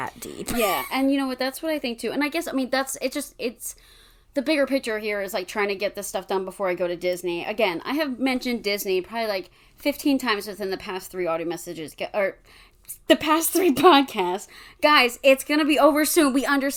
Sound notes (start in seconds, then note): 0.7 wheeze laughs; 2.4 stammers